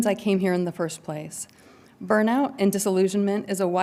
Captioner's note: none